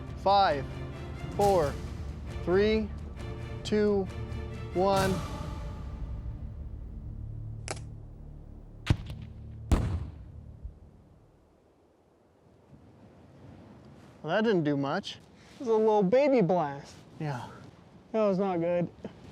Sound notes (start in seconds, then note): 8.5 thud; 8.8 small explosion